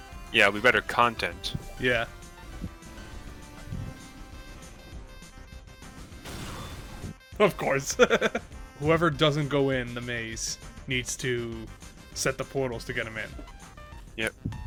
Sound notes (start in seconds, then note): 7.8 laughs